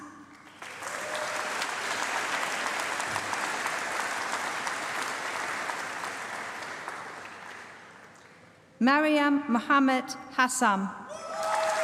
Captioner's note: applause; applause